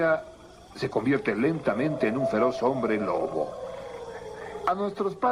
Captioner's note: wolf Howling